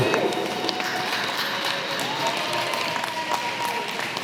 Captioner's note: applause